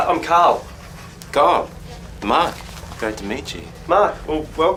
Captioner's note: south african accent